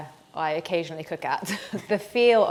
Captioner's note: chuckles